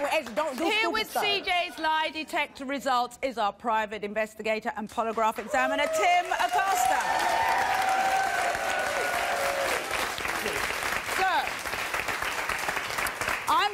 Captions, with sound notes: Here with CJ's lie detector results is our private investigator and polygraph examiner, Tim Acosta. (applause) So, I'm just reading from here